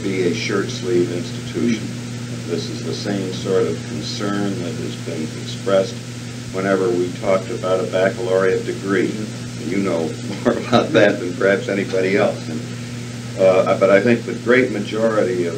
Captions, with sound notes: a shirt-sleeve institution. This is the same sort of concern that has been expressed whenever we talked about a baccalaureate degree. You know (laughs) more about that than perhaps anybody else. But I think the great majority of